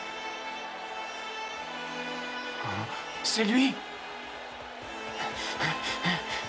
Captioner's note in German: beifall